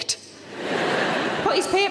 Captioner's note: audience laughing